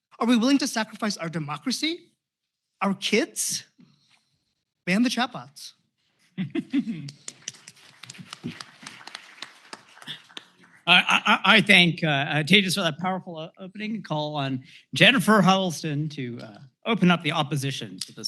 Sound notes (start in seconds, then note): 7.2 applause